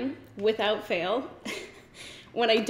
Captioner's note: giggles